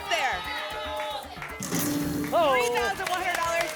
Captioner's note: cheering